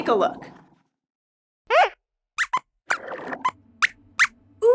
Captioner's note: squeaks squeaks